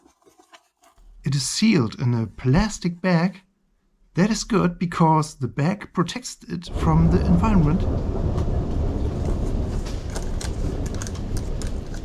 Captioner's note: thunder Sound